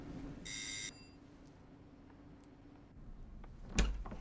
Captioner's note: doorbell buzzing